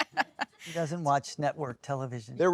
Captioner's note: chuckling